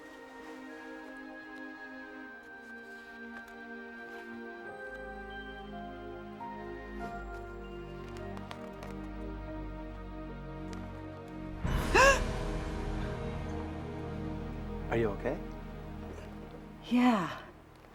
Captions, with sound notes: (gasps) (dramatic music) - Are you okay? - Yeah.